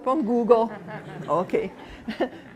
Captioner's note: laughter